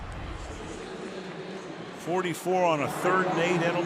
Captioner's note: pa announcement